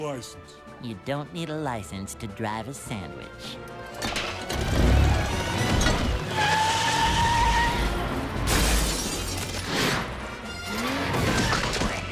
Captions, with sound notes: You don't need a license to drive a sandwich. [screeching] [shattering]